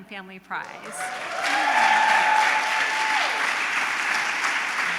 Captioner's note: applause, cheering